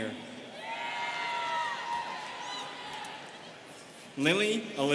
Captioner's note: students cheering